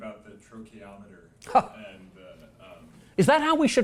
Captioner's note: laugh